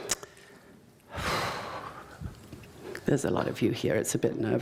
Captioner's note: sighs